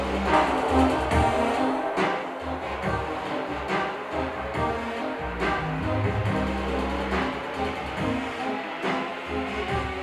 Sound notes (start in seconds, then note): none